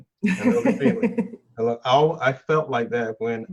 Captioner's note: laughs